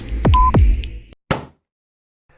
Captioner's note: stamp